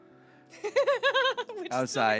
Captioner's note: laughing